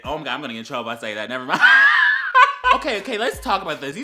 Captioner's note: ultimate wHEEZE